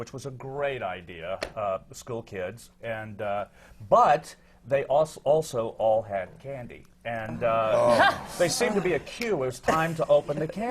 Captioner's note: laughter